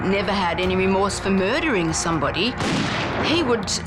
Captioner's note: gun fires